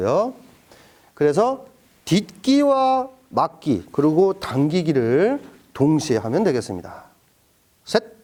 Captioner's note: stepping